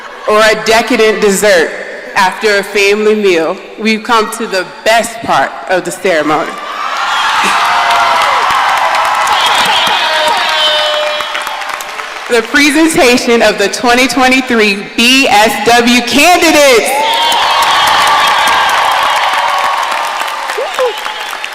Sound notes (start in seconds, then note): 6.6 audience cheering; 9.4 siren blaring; 17.0 audience cheering and applauding